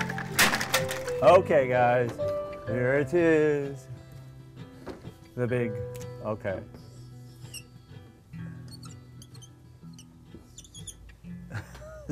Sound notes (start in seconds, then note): 0.0 sound of rack falling; 8.5 sound of dry erase marker squeaking